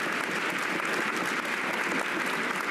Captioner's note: cheers and applause